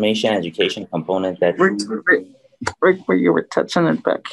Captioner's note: chatter